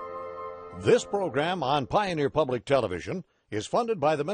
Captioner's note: voiceover